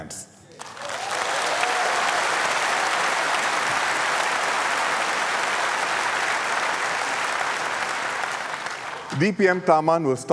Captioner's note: applause